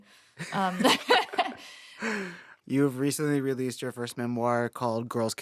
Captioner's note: laughter